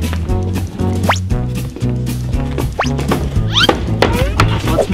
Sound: cartoon swiping

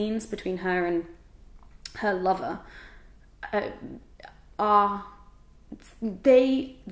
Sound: stutters

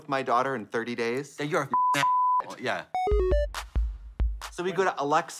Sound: beep

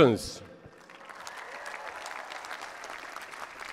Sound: applause

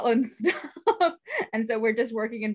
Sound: laughs

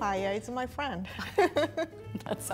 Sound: laughing

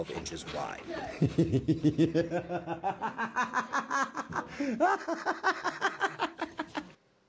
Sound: hysterical laughter

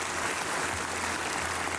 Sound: applause

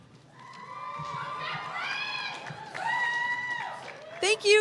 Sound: cheers

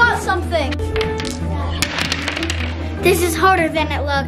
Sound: dice rolls

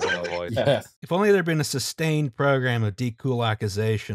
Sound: laughter

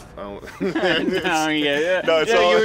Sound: both laugh

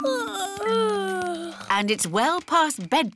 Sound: yawning

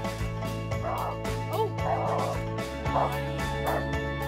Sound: dog barking

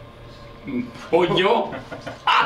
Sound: laugh

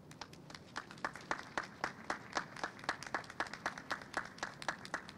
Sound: clapping

